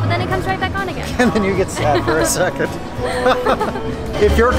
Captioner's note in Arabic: يضحك